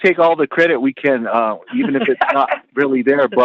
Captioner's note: laughter